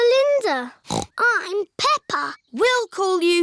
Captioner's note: snorts